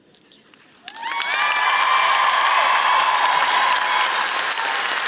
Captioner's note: audience applauding